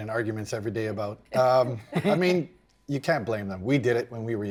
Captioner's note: chuckle